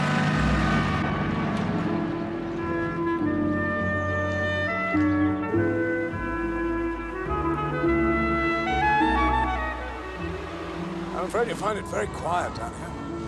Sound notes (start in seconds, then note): none